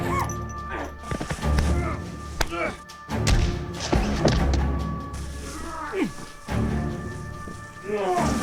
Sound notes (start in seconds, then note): 0.0 dramatic music; 2.4 both grunting; 3.2 punch thuds